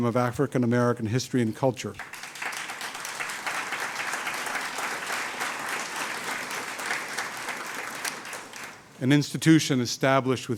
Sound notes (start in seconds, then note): 2.0 audience applauds